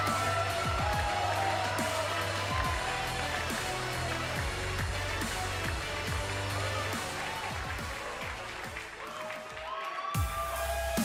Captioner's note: cheers and applause